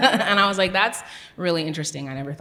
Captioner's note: giggles